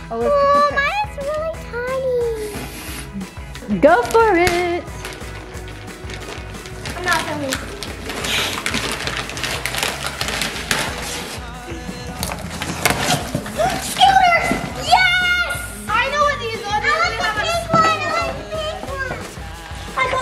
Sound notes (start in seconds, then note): 2.6 blowing raspberry; 5.2 paper rustling; 8.6 laughing; 9.9 paper ripping